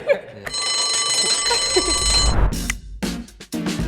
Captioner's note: laughing; bell ringing; suspenseful music